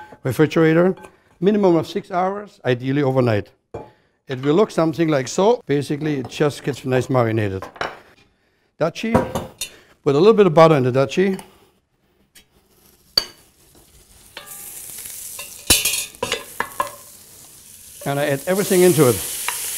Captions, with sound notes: REFRIGERATOR MINIMUM OF SIX HOURS, IDEALLY OVERNIGHT. IT WILL LOOK SOMETHING LIKE SO. BASICALLY IT JUST GETS NICE MARINATED. DUTCHIE. PUT A LITTLE BIT OF BUTTER IN THE DUTCHIE. [butter sizzling] AND I ADD EVERYTHING INTO IT.